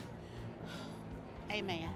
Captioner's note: sighs